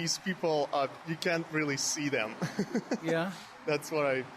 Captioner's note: laughs